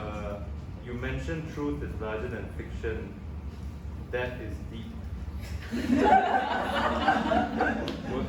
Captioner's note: audience laughs